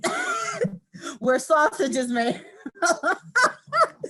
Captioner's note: laughs; laughing